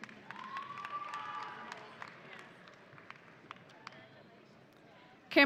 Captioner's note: audience applauding